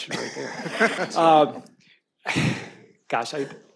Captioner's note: everyone laughs